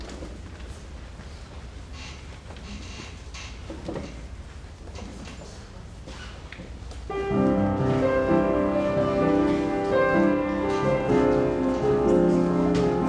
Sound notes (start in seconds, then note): none